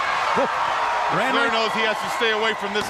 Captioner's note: crowd cheering